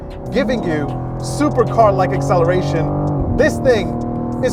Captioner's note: engine revving; engine roaring